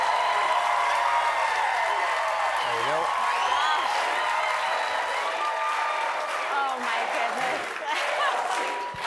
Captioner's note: cheers and applause